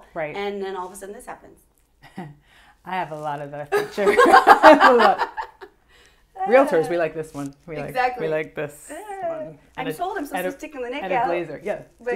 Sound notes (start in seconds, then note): 2.0 laughs; 4.2 laughs